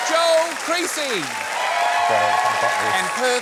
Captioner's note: cheering and applause